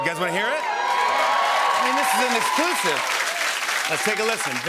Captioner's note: cheers and applause